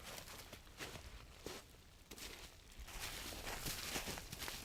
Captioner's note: footsteps crunching